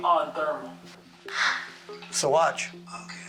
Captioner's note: hands clap